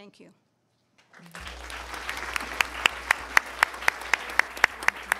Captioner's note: attendees applauding